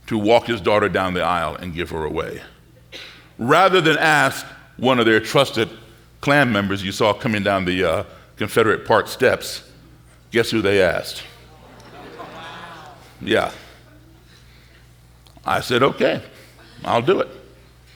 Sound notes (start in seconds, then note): 11.2 audience gasping